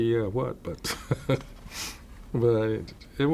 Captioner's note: laughter